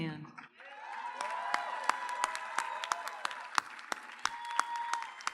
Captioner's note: audience cheers and applauds